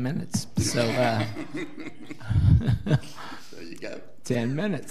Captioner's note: laughing